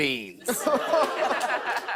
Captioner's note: audience ohhs